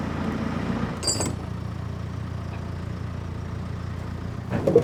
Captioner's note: chains clink